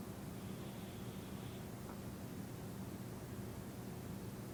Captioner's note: inhales deeply